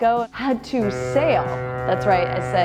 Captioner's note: ship horn blasts